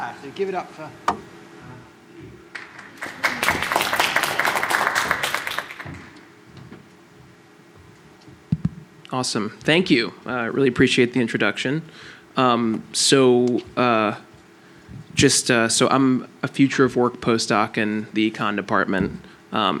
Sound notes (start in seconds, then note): 2.5 applause